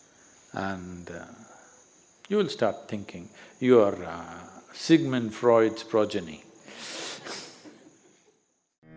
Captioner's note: laughs